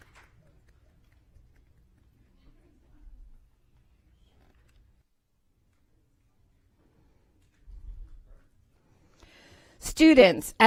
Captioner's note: applause